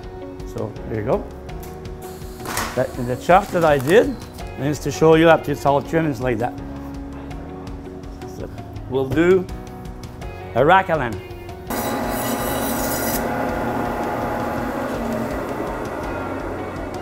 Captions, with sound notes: so there you go and the chops that I did just to show you after it's all trimmed it's like that we'll do a rack of lamb [saw sound]